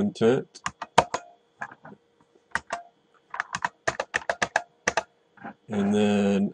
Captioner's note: typing